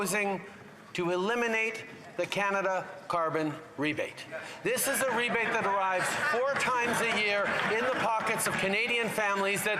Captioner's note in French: voix de l'interprète